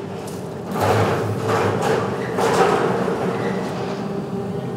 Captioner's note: metal rumble, whirring